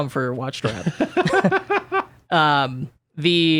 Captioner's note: laughs